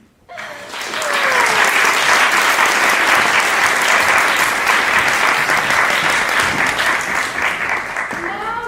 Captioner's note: applause